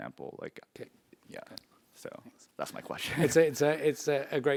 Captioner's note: laugh